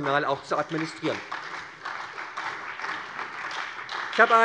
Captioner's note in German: Beifall bei der SPD und bei Abgeordneten der FDP